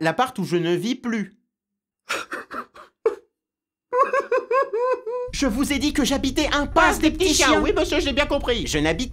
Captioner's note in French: Pleurs